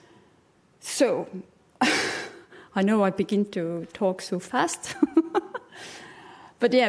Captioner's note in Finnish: chuckles; laughs